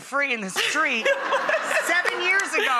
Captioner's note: laughing